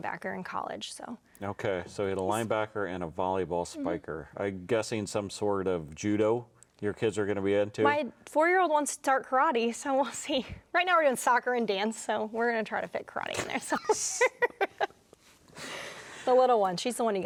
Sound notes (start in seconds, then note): 14.0 laughing